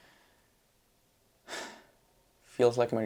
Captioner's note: sigh